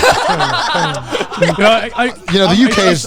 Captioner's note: everyone laughing